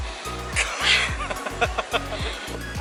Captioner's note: laughter